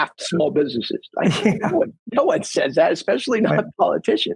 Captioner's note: laughs